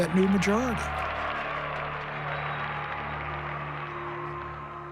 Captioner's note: cheers and applause